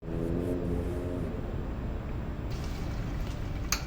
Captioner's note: traffic rumbling; coffee gushing